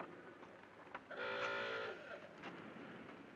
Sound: car honks

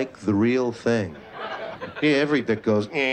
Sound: laughter

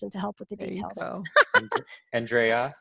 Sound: laughs

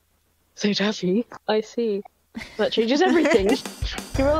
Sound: laugh

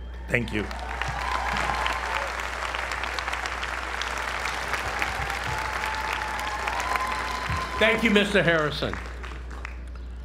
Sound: applause

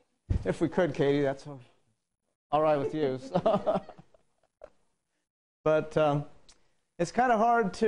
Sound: laugh

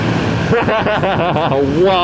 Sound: laughter

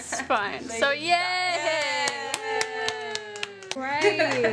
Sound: all cheering

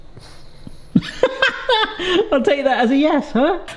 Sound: laughing

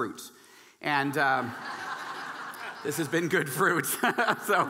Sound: audience laughing

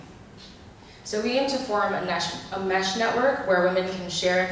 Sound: voiceover

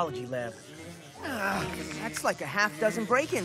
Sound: bee buzzing

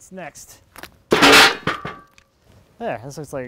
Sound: metal banging

